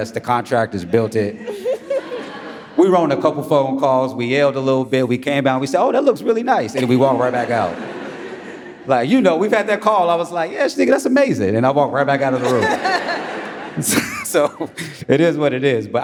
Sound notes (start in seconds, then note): 2.7 audience laughs; 6.7 audience laughs; 12.2 audience laughing